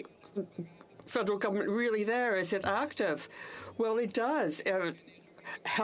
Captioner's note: speaking French